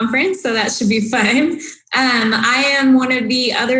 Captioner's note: laughs